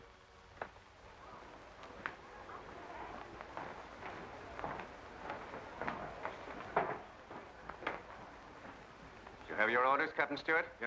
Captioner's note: guests chattering